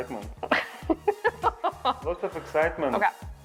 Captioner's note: laughs